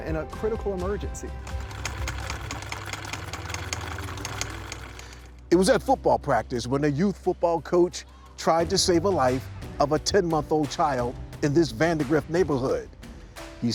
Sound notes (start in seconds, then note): 1.4 sewing machine whirring